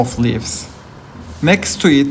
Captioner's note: leaves rustling